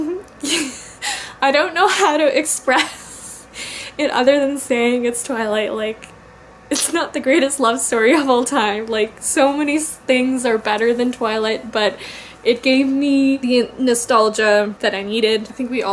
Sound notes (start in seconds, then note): 0.4 giggles; 0.4 laughing